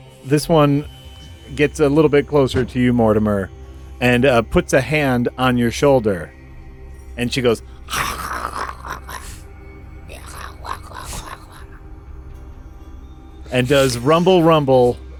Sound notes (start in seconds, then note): 10.1 excited but still highly unpleasant mouth noises